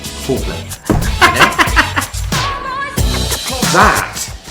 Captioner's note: laughing